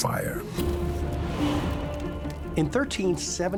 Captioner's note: suspenseful music; fire crackling